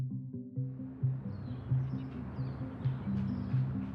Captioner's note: birds chirp